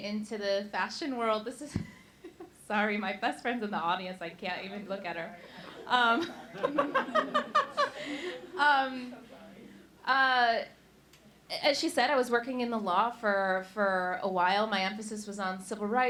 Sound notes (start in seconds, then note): 1.7 giggles